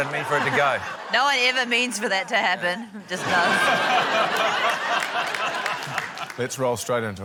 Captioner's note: laughter; laughter